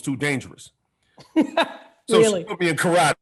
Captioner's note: Gary guffaws